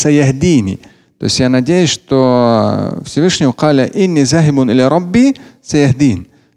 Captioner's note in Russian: говорит на арабском; говорит на арабском